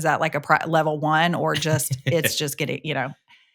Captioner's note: chuckles